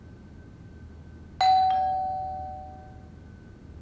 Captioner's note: doorbell ringing